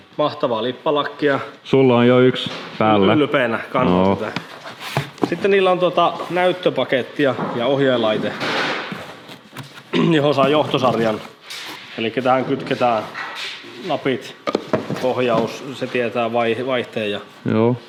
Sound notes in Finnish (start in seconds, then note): 9.2 rykäisee